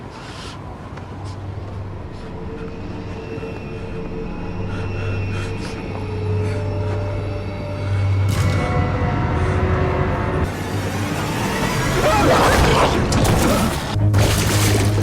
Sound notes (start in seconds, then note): 11.9 man screams